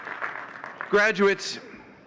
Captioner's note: audience cheering and clapping